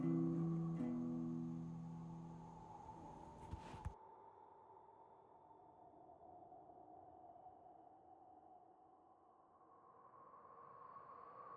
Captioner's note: wind whistling